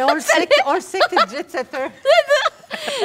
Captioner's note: laughs